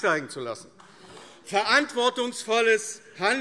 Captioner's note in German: Beifall AfD